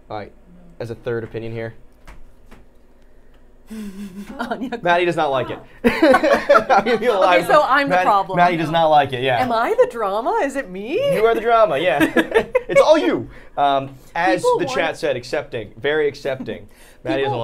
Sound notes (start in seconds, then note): 3.7 Safiya laughing; 5.9 all laughing; 11.8 both laughing